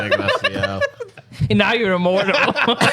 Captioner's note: laughing